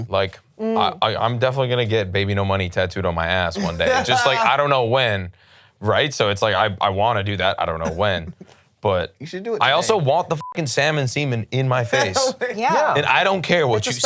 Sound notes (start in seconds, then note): 10.4 beep; 11.9 laughs